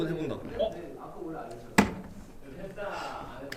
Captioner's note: bottle tossed